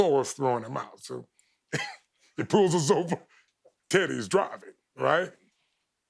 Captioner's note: chuckles